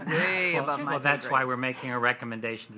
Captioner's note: laughter